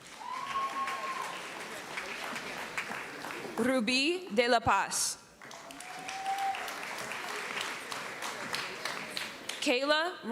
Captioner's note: applause